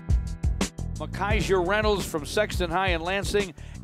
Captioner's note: radio Announcer